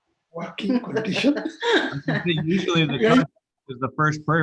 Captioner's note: laughs